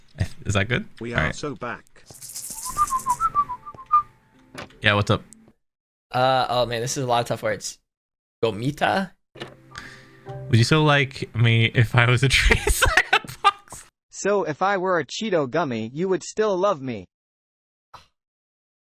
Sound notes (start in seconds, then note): 0.0 in Spanish; 0.4 in English; 2.0 maracas rattling; 2.4 whistling; 9.8 Spanish; 12.4 laughing; 14.2 text-to-speech